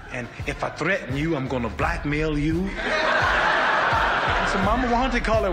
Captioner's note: audience laughs